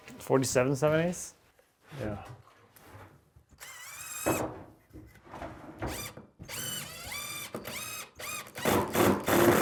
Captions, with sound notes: - 47 seven eighths? - Yeah. (drilling sounds)